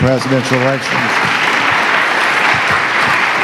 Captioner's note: applause